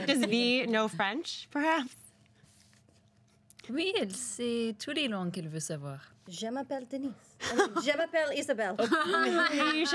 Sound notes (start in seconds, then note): 3.4 speaks in foreign language; 8.8 everyone laughs